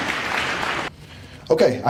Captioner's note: applause